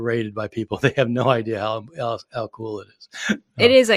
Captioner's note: chuckling